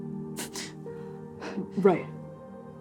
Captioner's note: bristling gasp